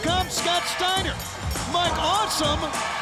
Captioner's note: bell ringing